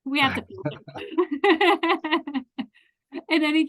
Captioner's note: laughs